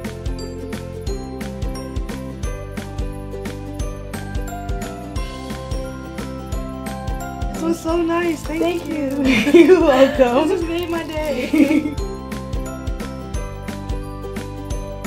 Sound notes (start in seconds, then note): 9.2 laughter; 11.9 pop music